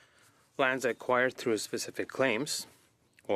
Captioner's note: speaking in French